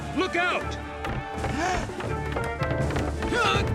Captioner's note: gasps